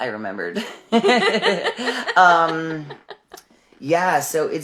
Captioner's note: laughing